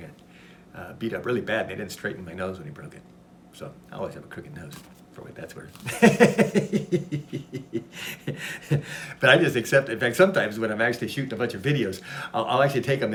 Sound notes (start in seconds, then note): 5.8 laughs